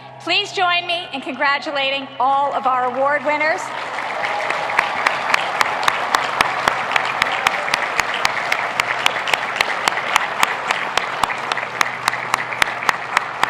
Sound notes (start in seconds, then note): 3.8 applauding